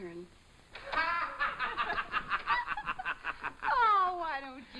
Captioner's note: laughing